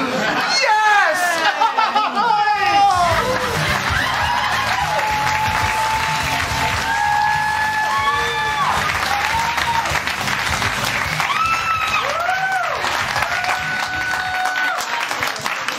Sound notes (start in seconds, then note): 2.8 applause & cheers